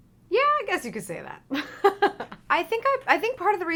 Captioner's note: laughs